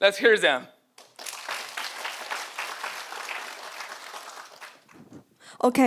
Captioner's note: audience applauding